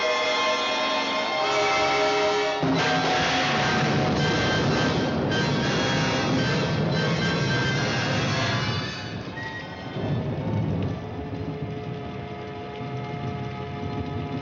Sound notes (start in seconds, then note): 4.5 thunderclap; 9.6 rain Pattering